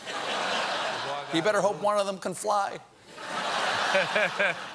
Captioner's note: audience reacts; laughter